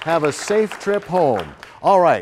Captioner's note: applause